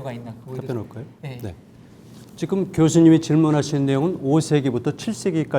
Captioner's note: speaking in Korean